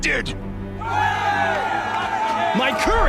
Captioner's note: cheers